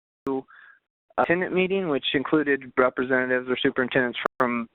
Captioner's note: voice distorting